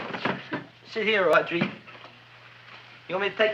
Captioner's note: chair rattling